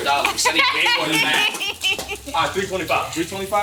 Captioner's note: laughing